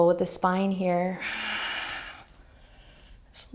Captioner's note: exhaling